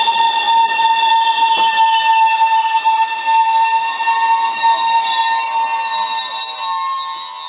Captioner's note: skreeeeeeeeeeeeeeeeeeeeeech!